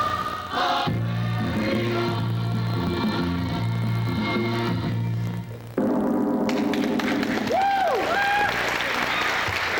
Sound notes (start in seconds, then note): 6.8 cheers, applause